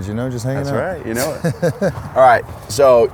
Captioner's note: laughs